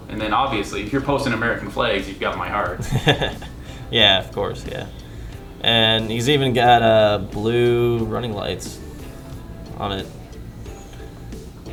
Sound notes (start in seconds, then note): 2.7 chuckling